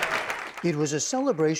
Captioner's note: cheering and applause